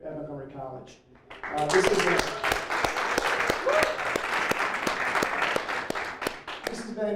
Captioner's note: applause